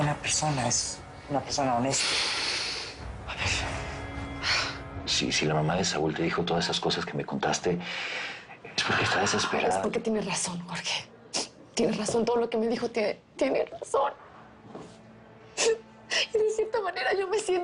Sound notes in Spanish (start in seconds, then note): 15.6 Sollozos